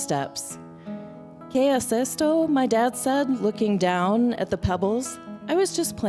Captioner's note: non-english